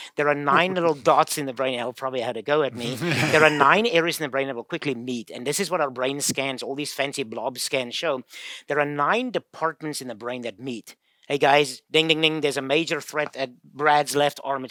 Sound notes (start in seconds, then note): 2.7 laughing